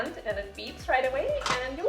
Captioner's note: Instant Pot locking